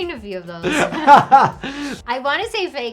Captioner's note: laughs